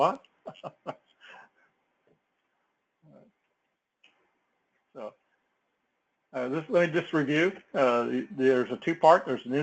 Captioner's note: laugh